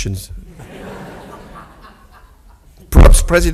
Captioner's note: audience laughs